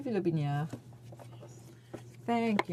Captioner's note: speaking french